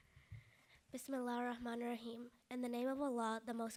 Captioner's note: speaking in foreign language